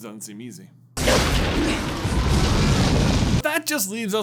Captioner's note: loud firey explodey boomy noises